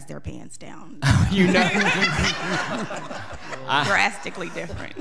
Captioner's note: all laughing